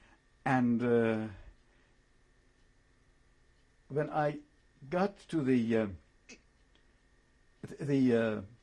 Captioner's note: pauses for 3 seconds